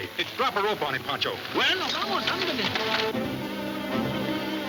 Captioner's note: speaking Spanish; exciting orchestra music